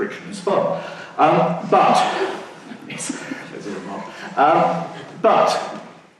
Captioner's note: laughing